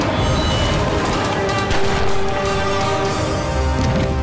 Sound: gun blasting

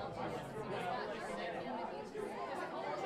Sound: none

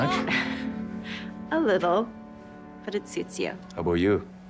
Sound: chuckles

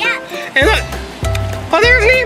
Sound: voiceover

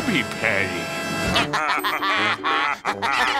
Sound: both laughing

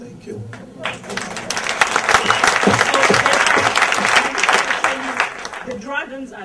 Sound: audience applause and cheer

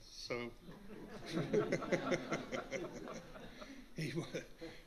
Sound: laughter

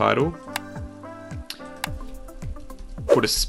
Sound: light upbeat music; mouse clicks

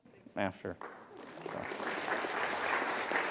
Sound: applause

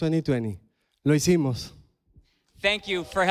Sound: speaks in foreign language

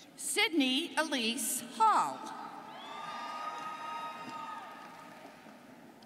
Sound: students cheering

